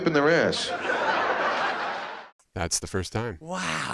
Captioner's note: crowd laughs